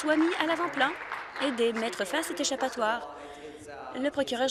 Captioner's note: applause